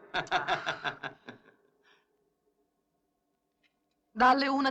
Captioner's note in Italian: risate